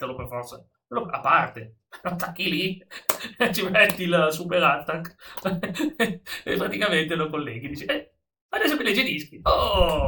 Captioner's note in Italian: risata